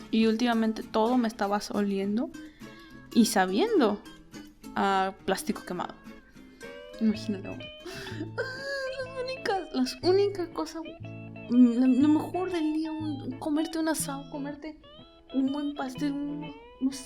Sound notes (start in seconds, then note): 9.5 while sobbing